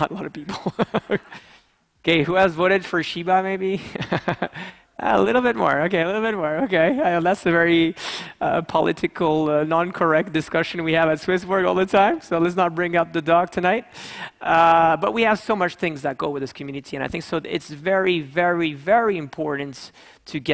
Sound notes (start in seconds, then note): 1.1 laughs; 4.3 laughs